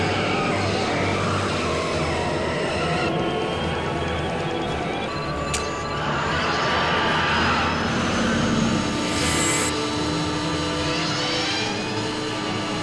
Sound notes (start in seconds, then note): none